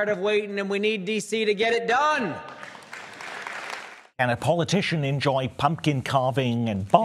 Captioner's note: applause